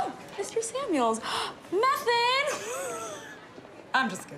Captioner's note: gasps